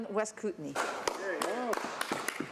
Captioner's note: speaking French